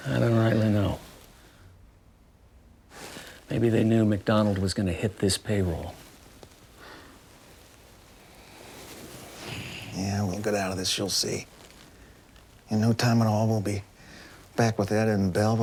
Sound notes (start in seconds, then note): none